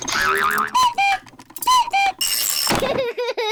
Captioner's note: panting; clock cuckoos; laughs